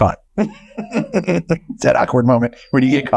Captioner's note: chuckling